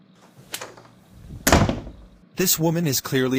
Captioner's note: door slams